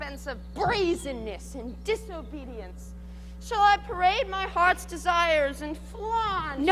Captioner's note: none